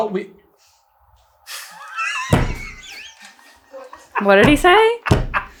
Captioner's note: absolutely dying laughing